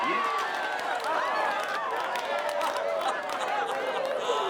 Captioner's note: group cheers and claps